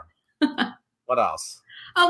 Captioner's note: laughs